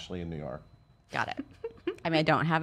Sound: laughs

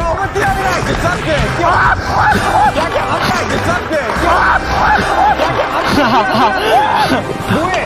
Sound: screaming

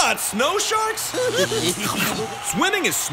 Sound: giggling

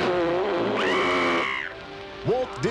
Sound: screaming

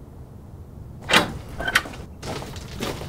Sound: gate opens

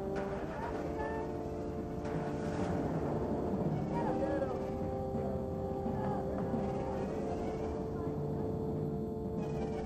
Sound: light cheering

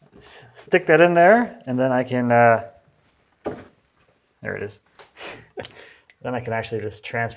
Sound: laughs

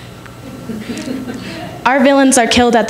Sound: laughter

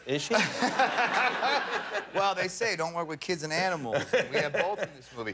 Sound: laughter

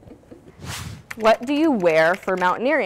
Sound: air whooshing; keyboard clicking

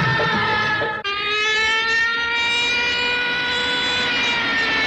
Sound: cop Siren

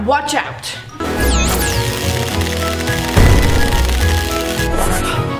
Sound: electricity buzzing

